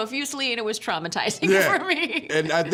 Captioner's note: laughing